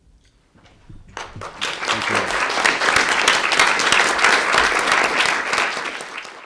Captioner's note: audience clapping